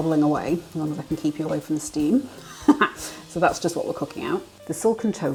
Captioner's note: laughs